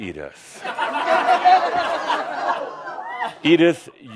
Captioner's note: some chuckles